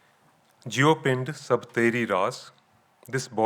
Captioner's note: speaking in foreign language